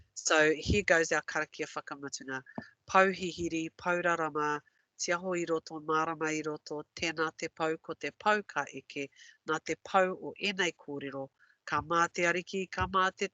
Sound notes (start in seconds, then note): 1.5 non-english; 2.4 non-english speech